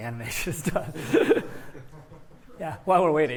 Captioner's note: laughs